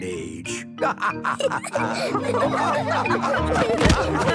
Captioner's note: all laughing